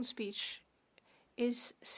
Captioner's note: speaking French